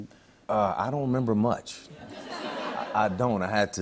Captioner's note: laughter